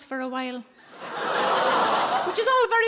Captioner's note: audience gasps